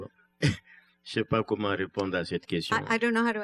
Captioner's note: speaking french